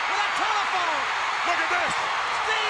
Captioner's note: crowd cheering